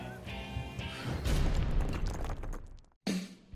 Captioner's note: thudding; adventurous music